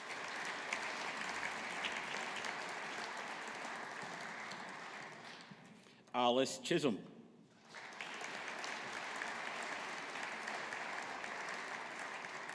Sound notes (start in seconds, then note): 0.0 audience applauding; 7.6 audience applauding